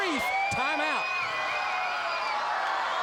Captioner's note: crowd cheering